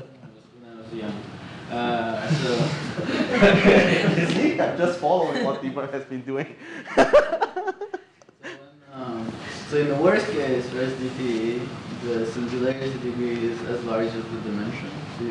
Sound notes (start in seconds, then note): 6.8 laughter